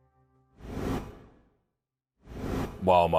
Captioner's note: logo whooshes